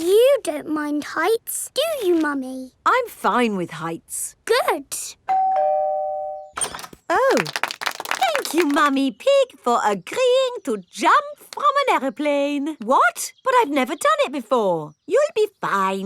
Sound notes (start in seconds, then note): 5.3 doorbell ringing; 7.2 crowd applauding